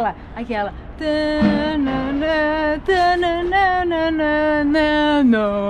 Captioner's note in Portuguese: Cantarolando